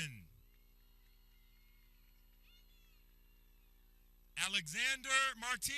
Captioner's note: people cheering